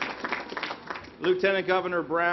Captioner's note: applause